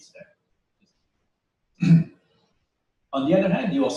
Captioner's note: pause